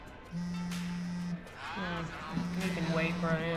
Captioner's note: phone vibrates